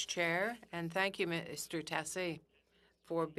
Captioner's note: speaking in French